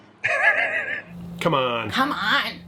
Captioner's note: laughs